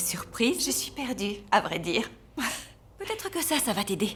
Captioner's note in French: soupirs